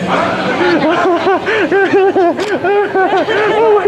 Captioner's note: giggles and wheezes with excitement